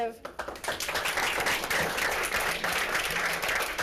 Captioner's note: applause